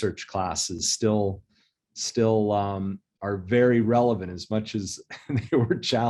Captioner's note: chuckles